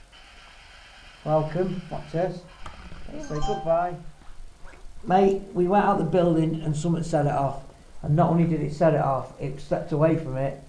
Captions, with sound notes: welcome, watch this it says goodbye! Camera (beeps) Mate we went out the building and something set it off and not only did it set it off, it stepped away from it